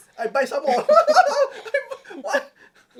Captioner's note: both laugh